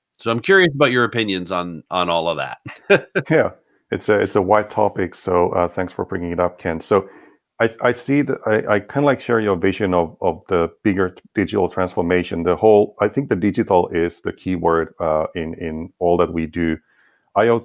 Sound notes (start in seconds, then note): 2.2 laughs